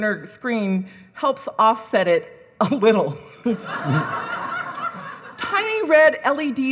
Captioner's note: audience cackling